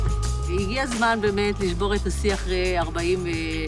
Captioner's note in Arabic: الصوت المنطوق باللغة العبرية